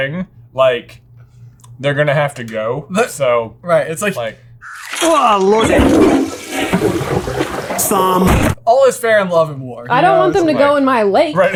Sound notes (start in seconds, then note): 4.7 flush